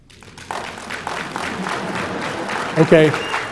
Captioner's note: audience applauding